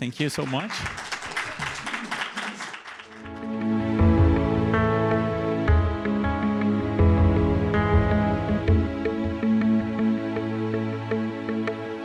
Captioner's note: applause